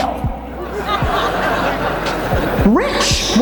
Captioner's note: audience laughs